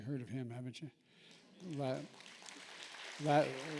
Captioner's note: applause